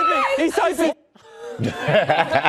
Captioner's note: laughter